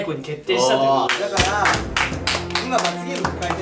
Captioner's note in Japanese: 拍手